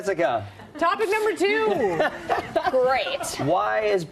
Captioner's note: laughter